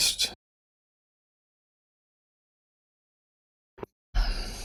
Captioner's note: blank Audio